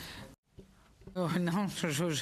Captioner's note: speaking French